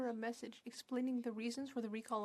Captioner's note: speaking French